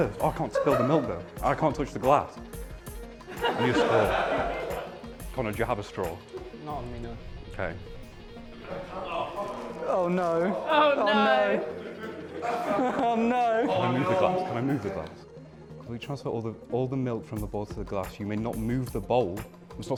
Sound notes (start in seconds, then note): 3.2 laughter; 8.6 sounds of disgust